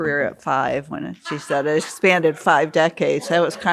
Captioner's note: audience member laughs